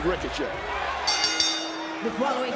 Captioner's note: bell rings